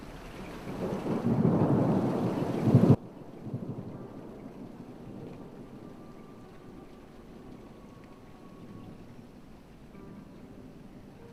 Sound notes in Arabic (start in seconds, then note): 0.9 أصداء الرعد البعيد; 3.0 موسيقى هادئة مشوقة